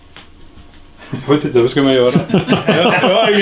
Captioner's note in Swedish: skratt